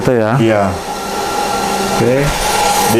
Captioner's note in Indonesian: suara mesin